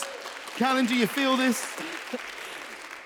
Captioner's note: audience applauds